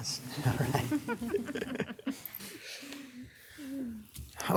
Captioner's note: soft giggling